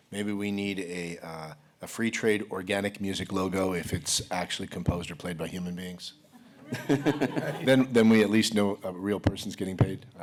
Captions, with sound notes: maybe we need a free trade organic music logo, if it's actually composed or played by human beings [laughter], then we at least know a real person is getting paid?